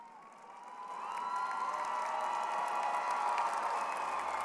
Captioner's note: crowd cheering